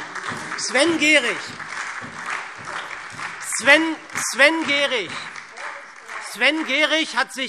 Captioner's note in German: Beifall SPD und DIE LINKE